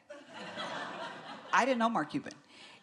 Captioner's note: laughter